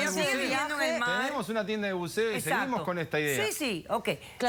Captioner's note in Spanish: Hablan al unísono